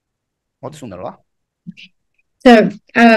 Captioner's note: speaks in foreign language